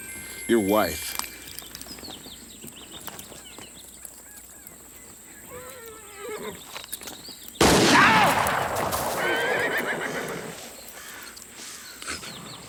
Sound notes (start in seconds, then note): 5.5 horse neighs; 7.6 gun fires; 7.7 Anthony screams; 7.8 horse neighs